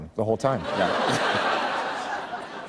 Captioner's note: laughter